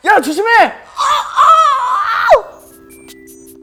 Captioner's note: screaming